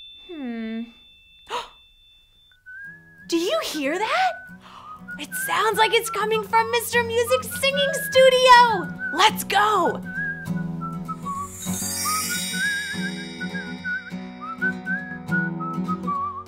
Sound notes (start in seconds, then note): 1.5 gasps; 3.1 whistling; 11.2 whistling; 11.2 bright music